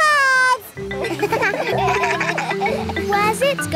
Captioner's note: kids laugh